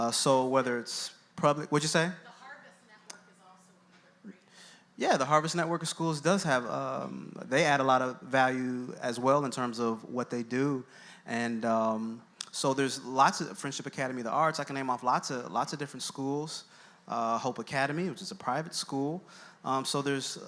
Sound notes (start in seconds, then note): 2.5 voiceover; 3.9 speaking off-mic